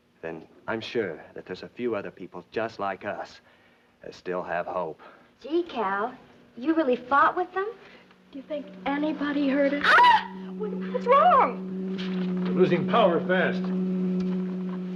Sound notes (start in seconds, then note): 9.8 screaming